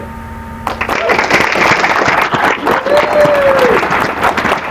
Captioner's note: applause